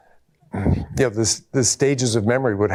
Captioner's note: clears throat